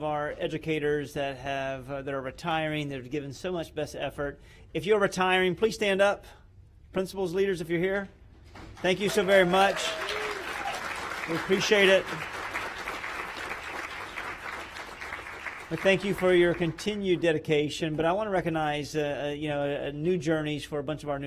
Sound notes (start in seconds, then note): 16.7 applause